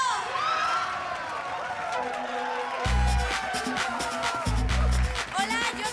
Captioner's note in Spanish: Gritos y exclamaciones